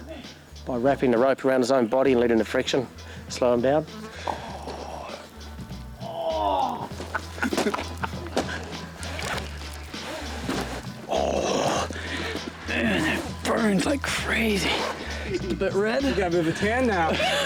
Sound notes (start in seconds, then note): 6.0 agonized groan; 6.0 laughing; 10.9 groaning